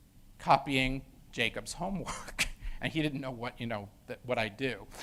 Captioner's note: laugh